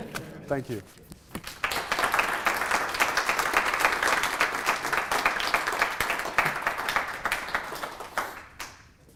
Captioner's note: applause